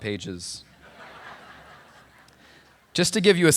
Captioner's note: laughter